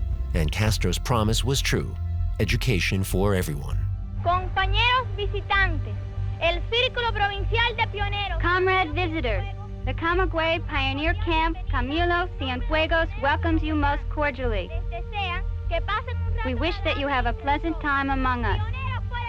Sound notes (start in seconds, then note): 4.2 speaking in Spanish